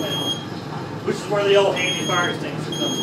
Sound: fire alarm beeping

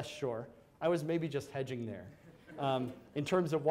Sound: audience laughs

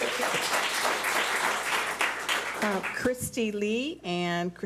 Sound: public applauding

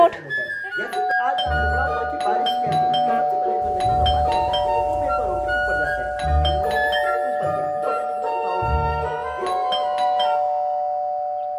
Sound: door Bell Ringing

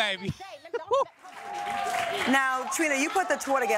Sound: clapping

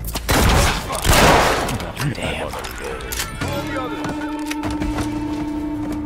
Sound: gun fires

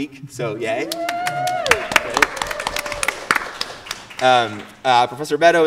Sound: audience applauding

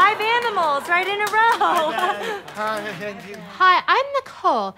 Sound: laughs nervously

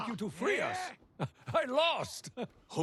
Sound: laugh

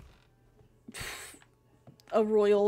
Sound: big Huff

